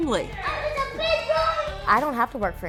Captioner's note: child yelling indistinctly